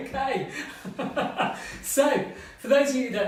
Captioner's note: laughing